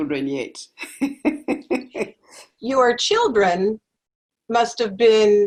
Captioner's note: laugh